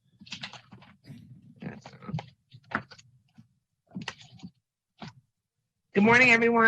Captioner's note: mumbles; paper shuffling